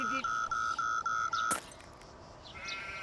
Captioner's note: device breaks